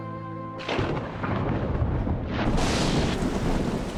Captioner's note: thunder